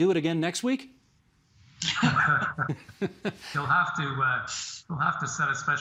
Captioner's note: laughter